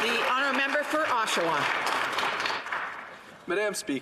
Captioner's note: some Applause